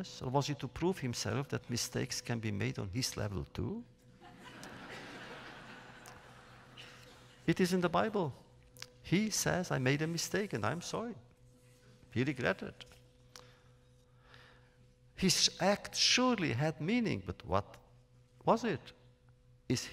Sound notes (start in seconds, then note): 4.2 laughter